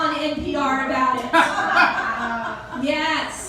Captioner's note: raucous laughter